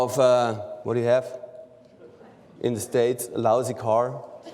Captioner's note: laughter